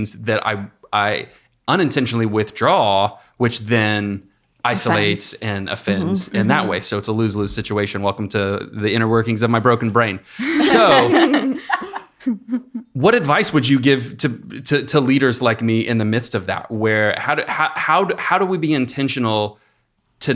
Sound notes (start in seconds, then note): 10.4 ladies laughing